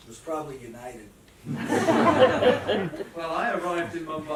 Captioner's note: laughter